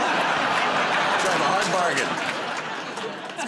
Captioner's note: laughter